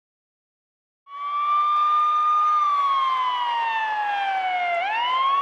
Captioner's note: siren wailing